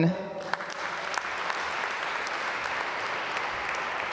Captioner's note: applause